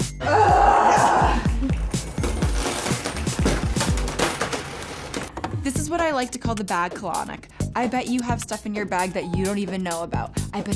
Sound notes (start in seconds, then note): 0.2 groaning; 1.8 coins clinking